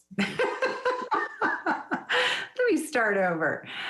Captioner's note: laughs